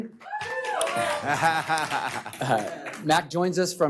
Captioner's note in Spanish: aplausos